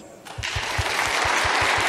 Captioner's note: audience clapping